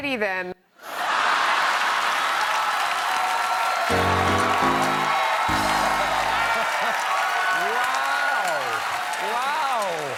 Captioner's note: cheers and applause